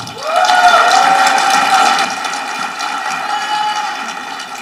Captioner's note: audience applauding